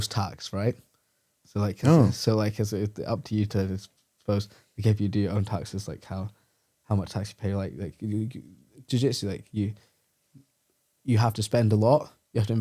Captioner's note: laughs